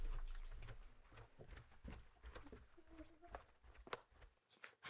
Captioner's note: footsteps clomping